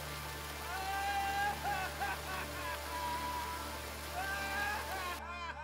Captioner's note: yelling and laughing